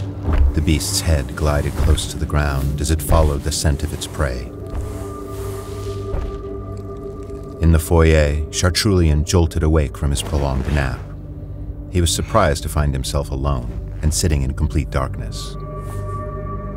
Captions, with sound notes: The beast's head glided close to the ground as it followed the scent of its prey. [Heavy monstrous footsteps] In the foyer, Chartrulean jolted awake from his prolonged nap. He was surprised to find himself alone and sitting in complete darkness.